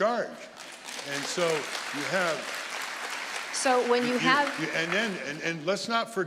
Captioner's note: audience applauding